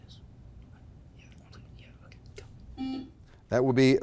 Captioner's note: faintly speaking; buzzer blaring